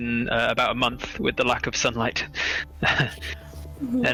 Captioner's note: small laugh